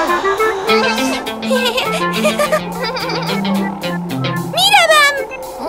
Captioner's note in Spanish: Risas